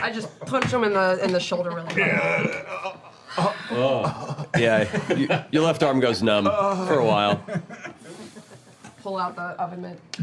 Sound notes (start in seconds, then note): 1.9 pained